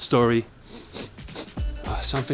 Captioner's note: smelling something